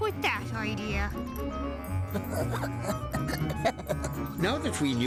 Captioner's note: giggling